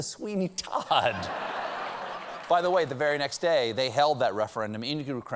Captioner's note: laughter